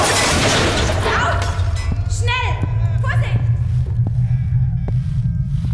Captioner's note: boots walk away quickly; voices and noise dim into distance